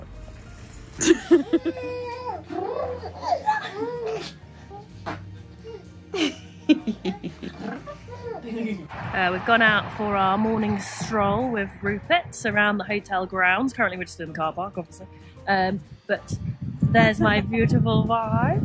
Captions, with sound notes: - Sorry. (giggle) (baby laughing) - We've gone out for our morning stroll with Rupert around the hotel grounds currently, which is Corston obviously. - There's my beautiful wife.